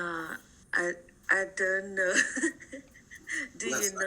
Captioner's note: chuckles